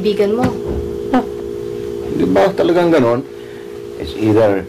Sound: scoffs

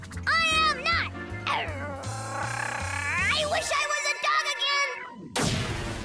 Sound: growling

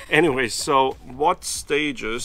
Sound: laughs

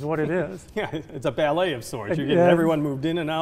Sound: chuckling

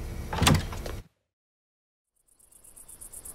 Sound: door clunks

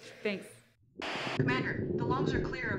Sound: radio

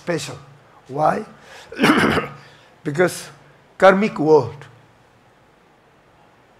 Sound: coughs

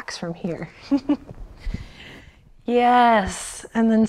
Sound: chuckles

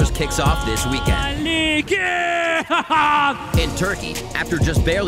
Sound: speaking foreign language

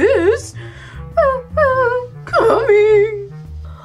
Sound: whimpers

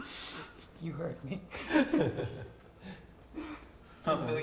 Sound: giggle

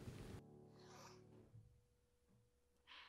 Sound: sniff; exhale

